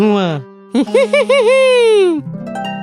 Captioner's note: chuckles